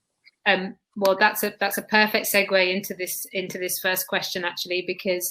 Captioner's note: erm